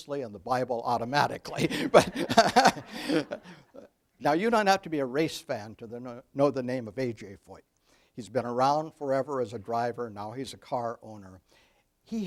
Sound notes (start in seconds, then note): 1.5 laughs; 3.1 audience laughs